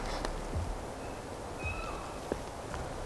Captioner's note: elk bugling